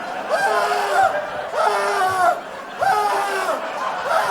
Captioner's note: screams continue